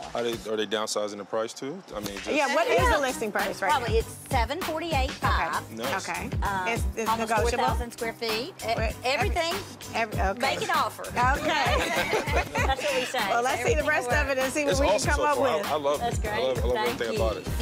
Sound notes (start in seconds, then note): 11.3 laughter